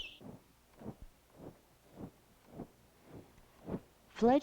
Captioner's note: wind whooshing